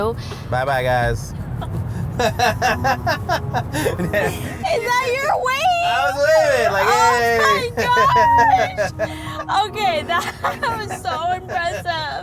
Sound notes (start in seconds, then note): 2.1 Matt laughs